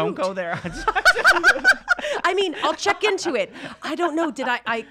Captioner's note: laughs